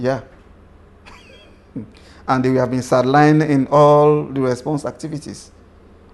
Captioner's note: laughs